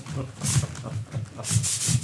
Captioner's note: spray hisses